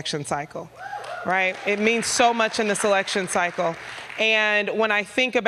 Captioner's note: applause